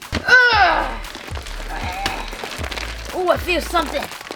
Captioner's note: grunting